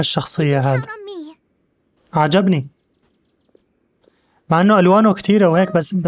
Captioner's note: silence